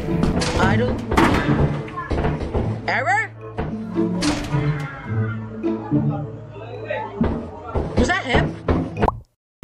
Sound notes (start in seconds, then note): 4.0 fire exit door shuts